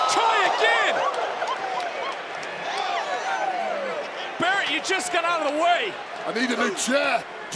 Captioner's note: applause